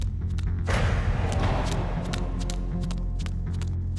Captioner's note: footsteps